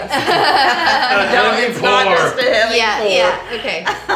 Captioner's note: laughing; murmurs